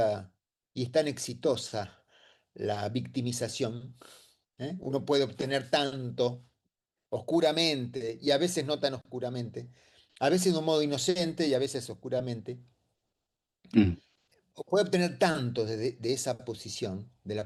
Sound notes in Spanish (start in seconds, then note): 4.0 resoplido; 13.7 carraspeo